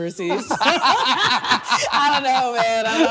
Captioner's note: both laughing